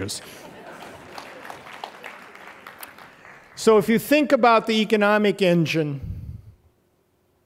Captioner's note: applause; laughter